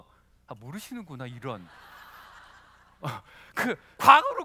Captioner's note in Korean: 웃음